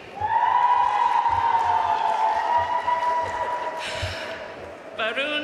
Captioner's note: audience cheering and applauding